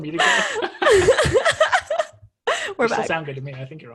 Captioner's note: laughs